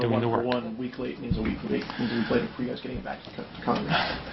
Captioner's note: reporter talking